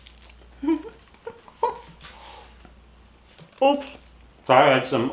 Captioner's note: chuckles